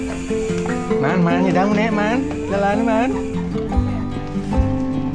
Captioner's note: people talking and joking